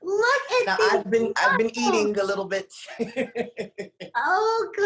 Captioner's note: laughs